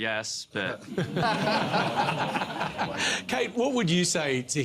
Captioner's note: laughter